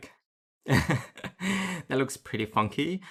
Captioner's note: light laugh